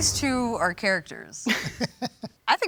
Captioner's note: laughs